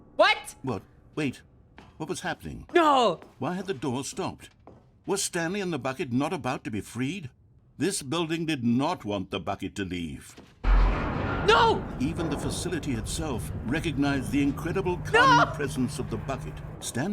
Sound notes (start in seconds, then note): 10.7 machinery resumes